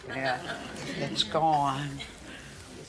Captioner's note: laughter